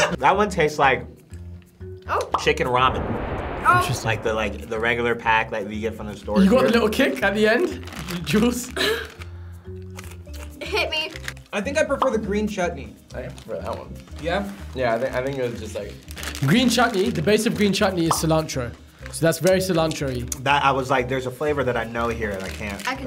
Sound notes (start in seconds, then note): 8.8 coughs